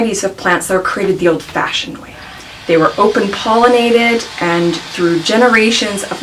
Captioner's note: hammering and sawing in the background